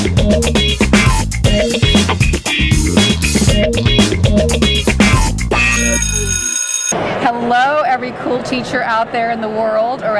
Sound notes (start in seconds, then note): 5.5 bell ringing